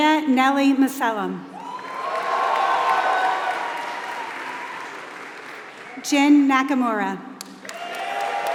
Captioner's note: applause